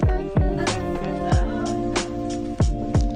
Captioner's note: laughs